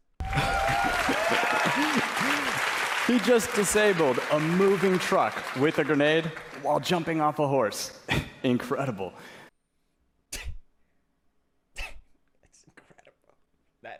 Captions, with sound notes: He just disabled a moving truck with a grenade while jumping off a horse. *loud breath* Incredible. *loud breath* *louder breath* That's incredible.